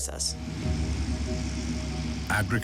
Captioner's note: working harvester